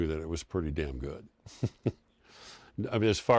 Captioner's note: laughs